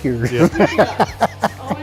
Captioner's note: cast and crew laughing